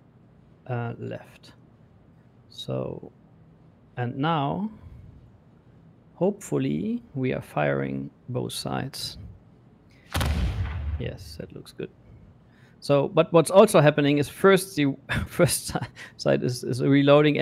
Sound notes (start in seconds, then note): 10.1 booming sound